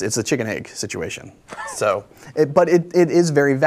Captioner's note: laughs